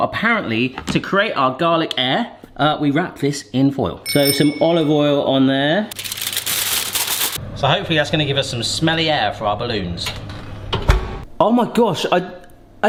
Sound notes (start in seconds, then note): 4.0 bicycle bell rings; 5.9 foil crinkling